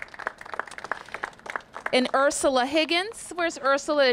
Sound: applause

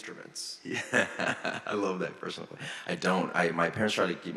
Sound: laughs

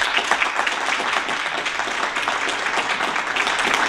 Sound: applause

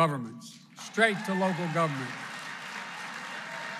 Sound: applause

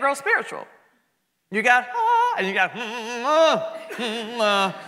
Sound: humming

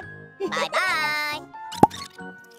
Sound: laughs

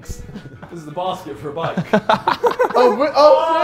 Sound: laughs

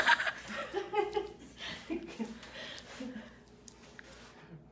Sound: mama laughs; laughs

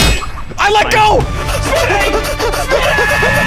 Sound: SMii7Y hyperventilating

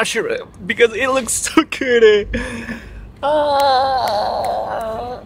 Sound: snaps fingers

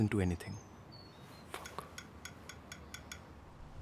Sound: tapping sound

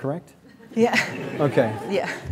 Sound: crowd laughing

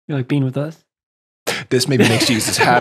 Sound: laughing

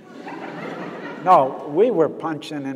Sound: audience laughs

